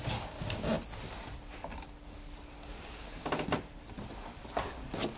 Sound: machine beeps

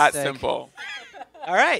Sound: laughter

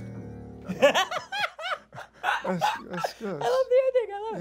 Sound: laughter

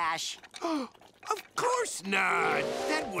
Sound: gasping

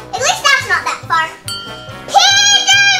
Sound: bell rings

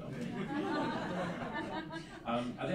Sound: laughing

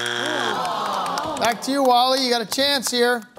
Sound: buzzer sounds; audience groans

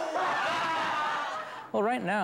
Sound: laughter

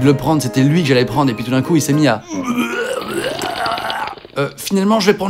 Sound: vomits

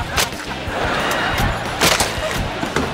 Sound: laughing

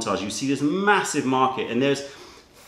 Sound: none

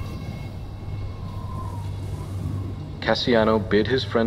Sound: wind whistling

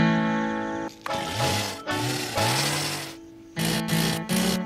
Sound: chainsaws running

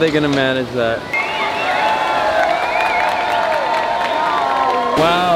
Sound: crowd cheers and applauds

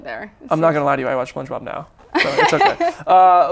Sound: laughs

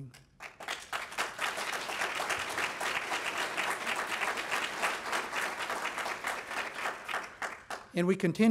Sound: clapping

